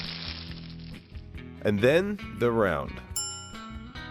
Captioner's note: bell dings